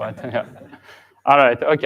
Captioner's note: chuckling